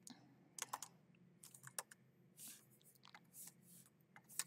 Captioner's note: keyboard clacking